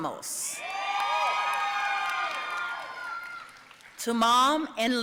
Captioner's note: audience cheering and applauding